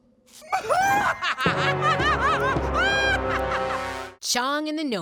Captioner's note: laughing